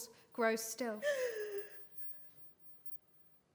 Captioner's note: sobs